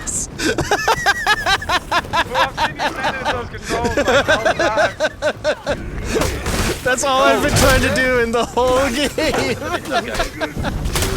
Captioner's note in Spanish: risas